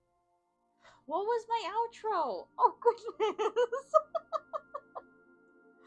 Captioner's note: embarrassed giggle